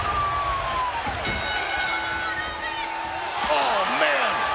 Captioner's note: bell dinging